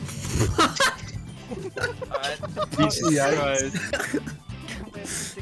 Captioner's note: laughter